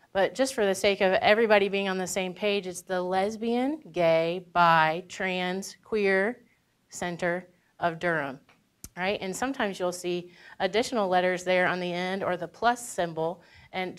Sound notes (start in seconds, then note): none